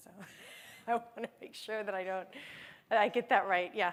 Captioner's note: laughter